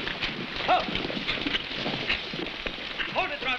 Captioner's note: man shouts